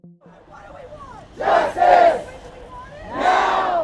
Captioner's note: crowd